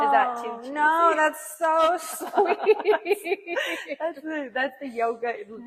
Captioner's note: laughing